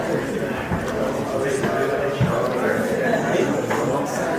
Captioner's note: audience chattering